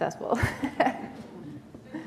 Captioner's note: chuckle